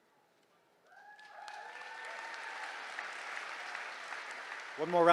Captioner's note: cheering